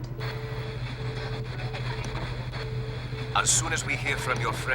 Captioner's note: radio static